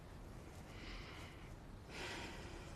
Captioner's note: exhaling sharply